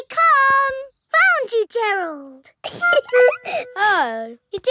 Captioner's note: giggling